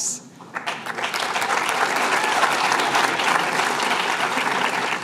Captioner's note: applause